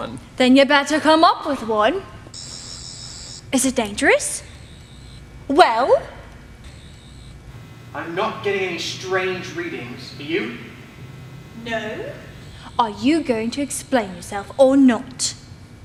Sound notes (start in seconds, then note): 2.3 sonic screwdriver buzzing